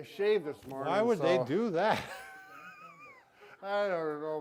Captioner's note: laughing